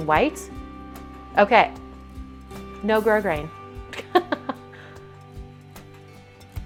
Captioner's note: laughs